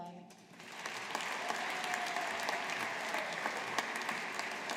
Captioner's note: audience applauding